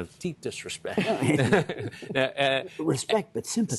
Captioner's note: laughter